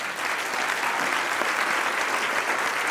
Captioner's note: applause